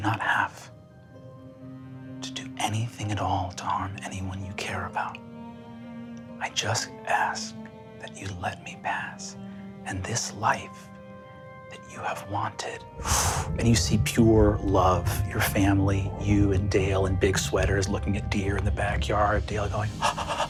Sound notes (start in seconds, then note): 12.8 mimics air whooshing